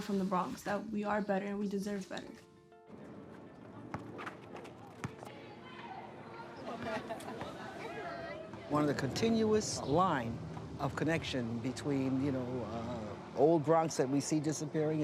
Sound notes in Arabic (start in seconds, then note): 2.5 موسيقى هادئة; 5.0 الناس يتحادثون